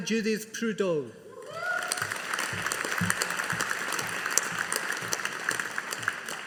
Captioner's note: audience applauding